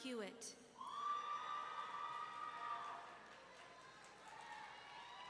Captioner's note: audience cheering